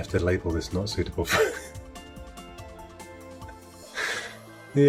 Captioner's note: laughing